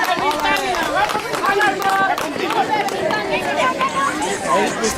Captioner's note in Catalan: La gent anima